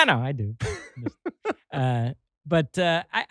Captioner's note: laughs